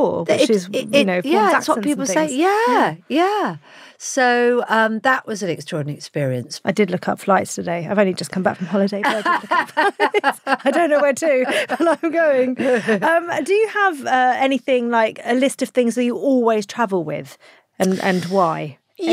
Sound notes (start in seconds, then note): 9.0 both laughing